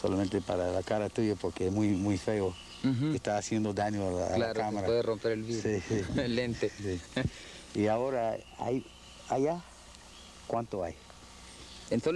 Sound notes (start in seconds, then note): 5.6 chuckles